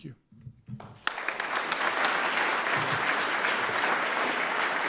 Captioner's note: audience clapping